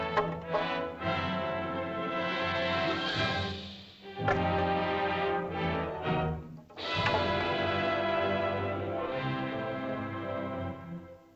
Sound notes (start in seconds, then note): 0.0 staff clatters; 1.4 suspenseful music; 4.0 staffs clatter; 4.0 triumphant music